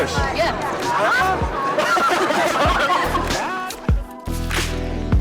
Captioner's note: group laughter